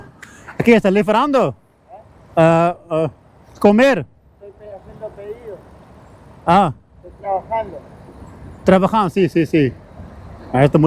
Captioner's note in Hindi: स्पेनिश में बोलते हुए